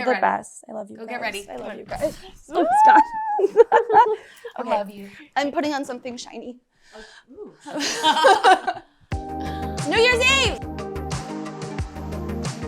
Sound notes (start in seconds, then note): 2.6 all laughing; 12.4 soft upbeat music